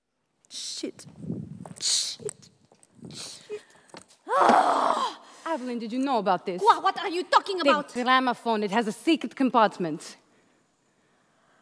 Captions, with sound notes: - Shit, shit, shit. (Aveline groans.) Aveline, did you know about this? - Quoi? What are you talking about? - The gramophone, it had a secret compartment.